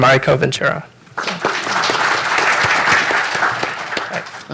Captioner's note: applause